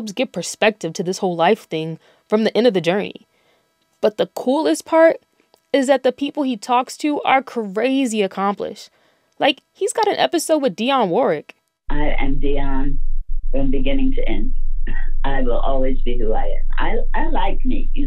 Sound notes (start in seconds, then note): 11.9 soundbite of archived recording